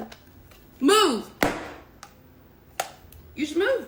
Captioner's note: slams phone